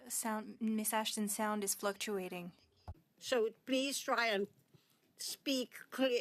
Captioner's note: speaking French